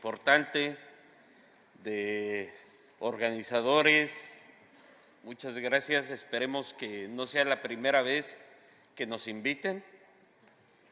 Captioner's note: speaking spanish